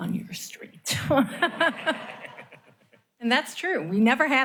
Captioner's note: laughter